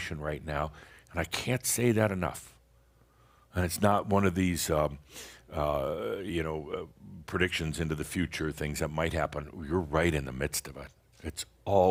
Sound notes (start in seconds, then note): none